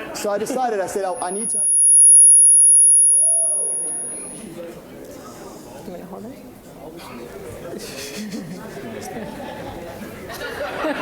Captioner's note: microphone feedback